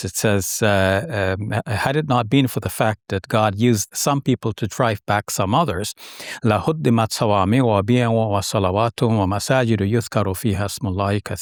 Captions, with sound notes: It says, "had it not been for the fact" " that God used some people" "to drive back some others," (speaking in foreign language)